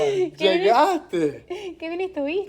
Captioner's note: laughing